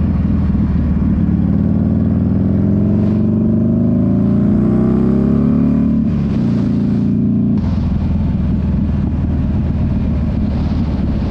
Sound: engine roaring

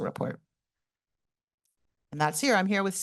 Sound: pause

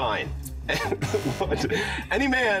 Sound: both laugh

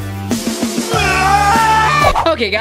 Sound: yelling

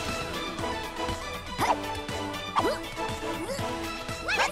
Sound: grunting

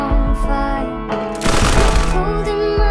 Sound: gunshots

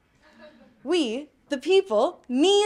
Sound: audience laughing

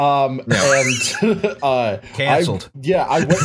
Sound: laughter

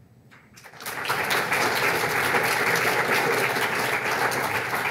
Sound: audience clapping

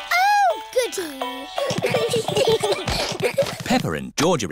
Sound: all giggling

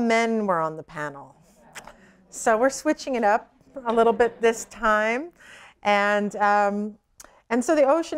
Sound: laughter

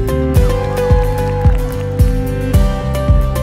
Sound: cheering and clapping

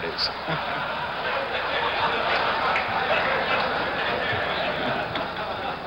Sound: laughter

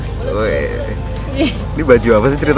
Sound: laughing

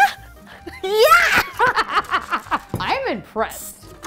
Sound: laughing

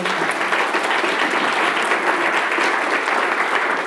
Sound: applause

